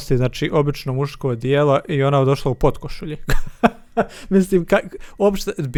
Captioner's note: laughs